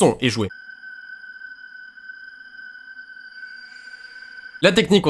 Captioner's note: quietly